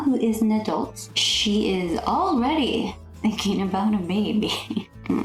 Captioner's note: nervous laughter